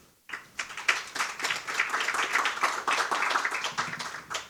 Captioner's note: audience applauding